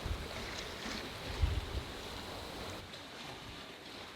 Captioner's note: water sloshes